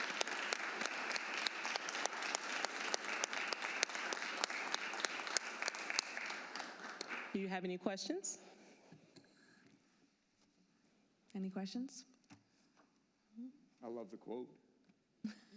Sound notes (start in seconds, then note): 1.9 applause